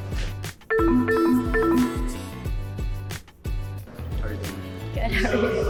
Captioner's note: upbeat music; electronics beep; electronics beeping